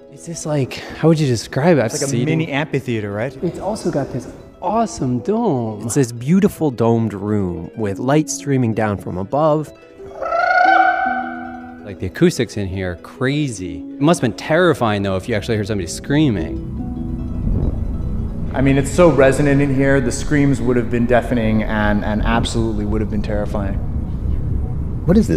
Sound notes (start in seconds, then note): 10.1 makes trilling noise